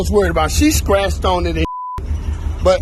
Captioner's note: beep